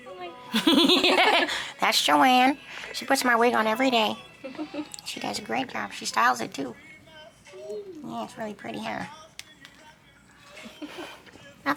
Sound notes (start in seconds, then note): 0.5 both laughing; 4.4 chuckling